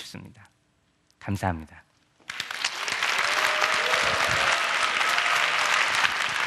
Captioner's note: applause